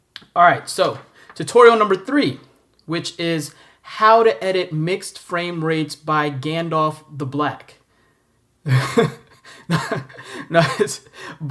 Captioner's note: chuckle